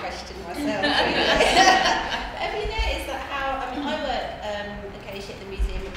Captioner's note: laughter